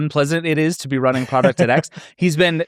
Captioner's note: laughs